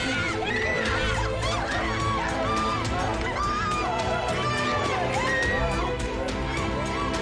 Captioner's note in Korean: 싸우는 소리